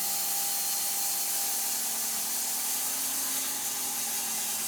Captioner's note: saw buzzing